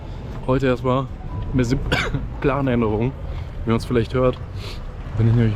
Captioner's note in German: Husten